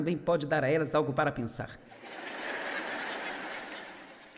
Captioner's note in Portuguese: audiência ri